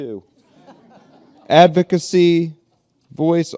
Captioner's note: laughter